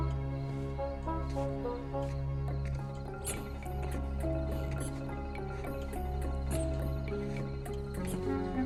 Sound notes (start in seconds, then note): 2.4 slippers squeaking